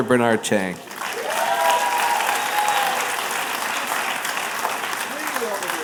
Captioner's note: applause